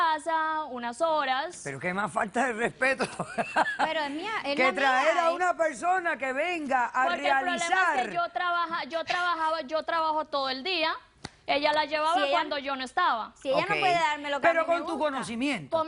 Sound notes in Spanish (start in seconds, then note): 3.0 Risas